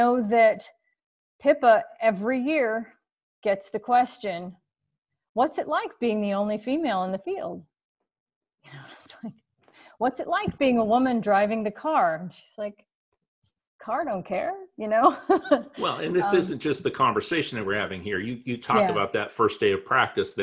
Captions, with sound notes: I know that Pippa, every year, gets the question: what's it like being the only female in the field? (chuckles) What's it like being a woman driving the car? She's like, "Car don't car," you know. (chuckles) - Well, and this isn't just the conversation that we're having here. You talked about that first day of practice,